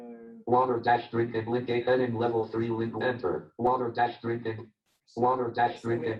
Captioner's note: JAWS speaking disjointedly